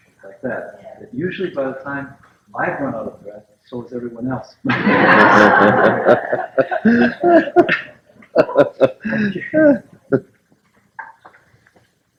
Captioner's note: laughter